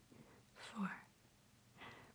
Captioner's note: breathes in softly